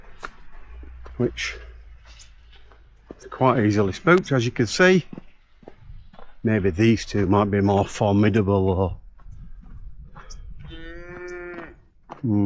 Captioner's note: moo